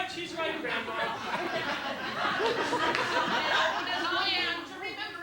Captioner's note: laughter